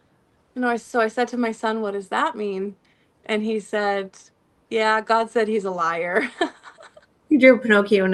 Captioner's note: laughter